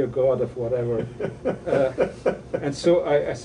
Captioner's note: interviewer laughing